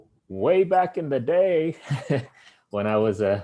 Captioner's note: laughing